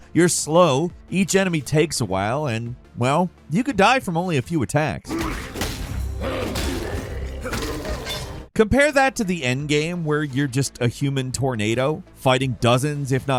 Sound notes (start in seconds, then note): 5.1 weapons striking; 6.1 characters grunting